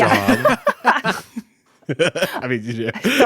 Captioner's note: group laughing